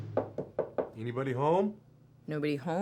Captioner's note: intense knocking